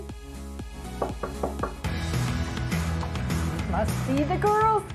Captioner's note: knock on door